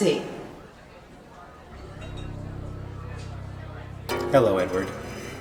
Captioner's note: people chattering